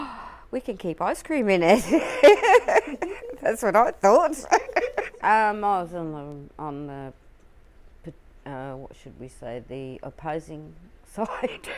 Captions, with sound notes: We can keep ice cream in it. (LAUGHS) That's what I thought. I was on the - what should we say the opposing side.